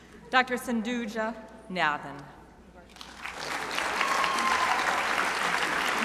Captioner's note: crowd applauding